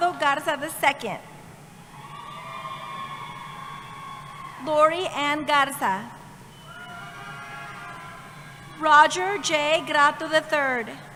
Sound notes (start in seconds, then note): 1.9 cheering